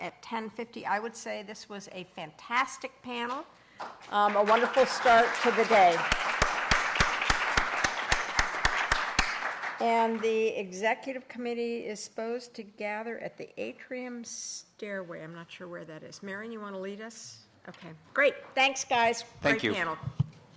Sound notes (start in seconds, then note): 6.0 applause